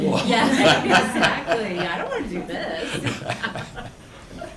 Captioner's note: laughs